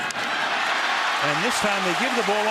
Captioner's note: cheering